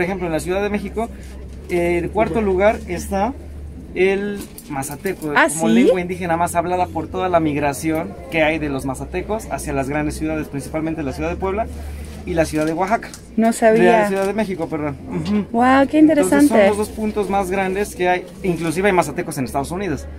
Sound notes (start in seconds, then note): 0.1 in Spanish